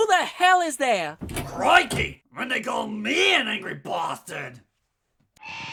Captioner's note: door opens